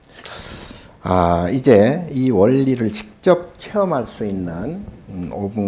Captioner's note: speaking Korean